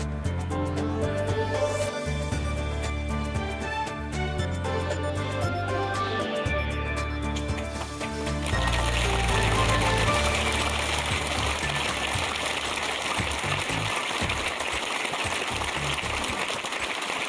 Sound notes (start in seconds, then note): 8.7 applause